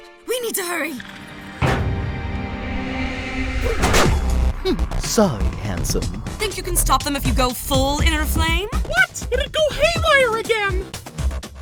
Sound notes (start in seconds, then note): 1.6 thud; 3.4 bang